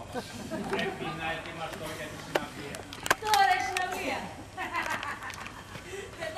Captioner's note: γέλιο